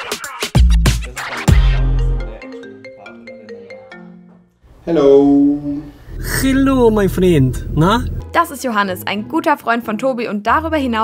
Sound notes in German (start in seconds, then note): 1.7 Handyklingeln